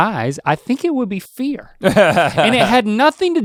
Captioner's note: Rhett laughing